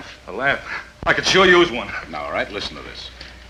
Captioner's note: sighs